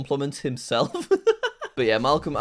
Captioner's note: laughing